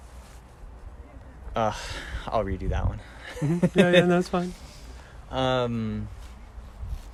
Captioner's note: sigh